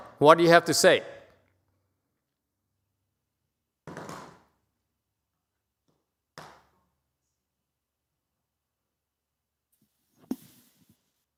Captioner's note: begins to speak Vietnamese